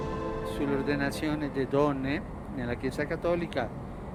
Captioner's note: in Italian